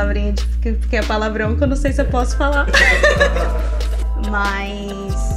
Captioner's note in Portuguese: risos